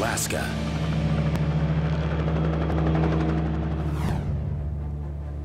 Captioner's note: helicopter blades whirring